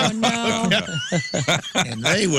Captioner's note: laughing